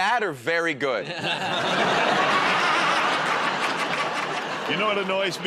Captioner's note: laughter